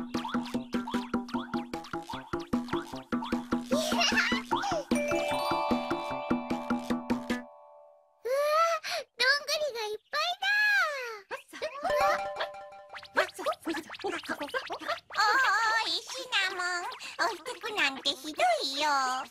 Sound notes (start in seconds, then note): 3.7 joyful Giggle; 5.0 twinkly sound; 13.2 chipmunks making picking up noises